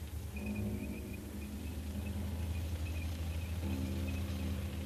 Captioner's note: tanks approaching